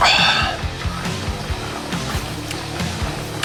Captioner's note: slurp